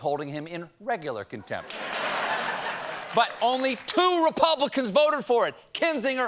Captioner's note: laughter